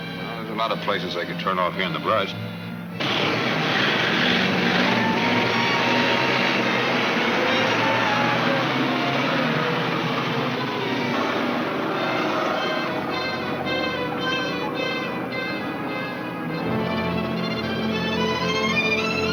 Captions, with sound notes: - Well there's a lot of places they could turn off here in the brush. (engines rumbling) (pensive orchestra music)